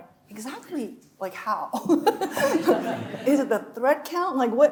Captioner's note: chuckling